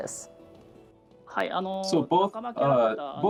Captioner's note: speaking japanese